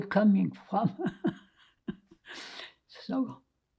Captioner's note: laughing